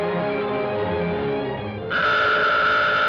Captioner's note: alarm sounds